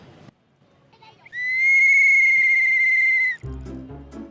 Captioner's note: powerful whistling from captain